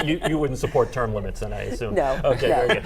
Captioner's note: laughter